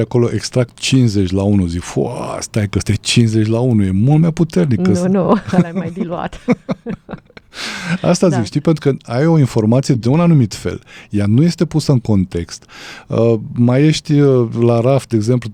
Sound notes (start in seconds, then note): 5.2 laughter; 7.5 gasp